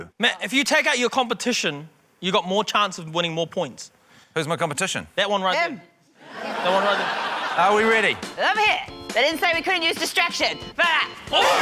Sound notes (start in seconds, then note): 6.2 laughter